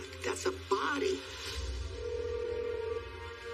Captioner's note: phone ringing